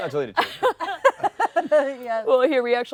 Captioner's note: laughter